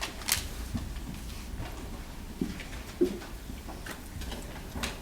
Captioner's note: shuffling